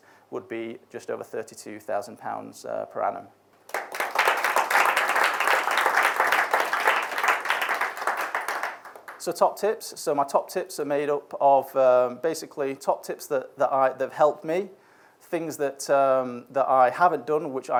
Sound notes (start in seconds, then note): 3.6 audience applauds